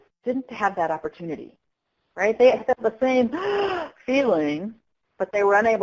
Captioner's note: breathing in sound